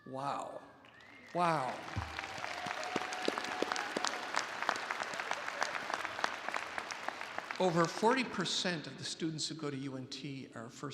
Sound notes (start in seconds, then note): 0.8 attendees applauding